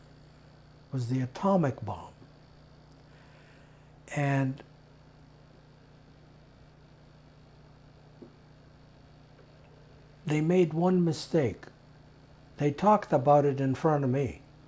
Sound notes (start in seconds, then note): 4.7 pauses 6 seconds